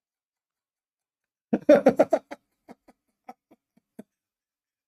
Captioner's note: Ketawa